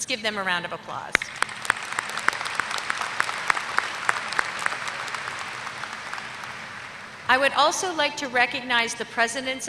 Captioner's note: applause